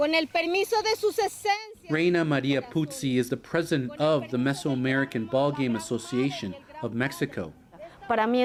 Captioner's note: speaking alternate language